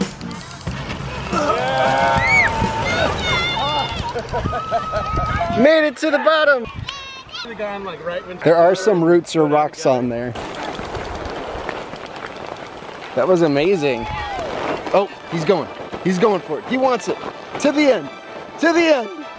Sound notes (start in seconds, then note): 1.5 crowd